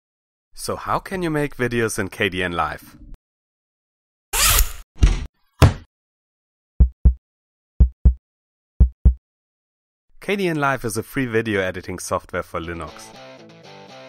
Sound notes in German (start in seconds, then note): 6.8 Herzschlag